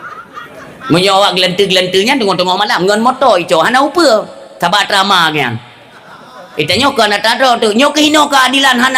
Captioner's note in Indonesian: tertawa